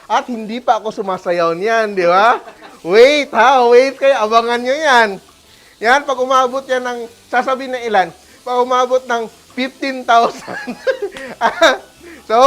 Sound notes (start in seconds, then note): 2.2 laughs; 5.2 sizzles; 10.3 laughs